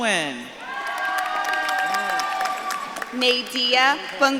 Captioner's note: audience claps and cheers